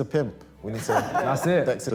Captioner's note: laughs